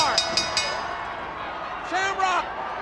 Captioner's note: bell ringing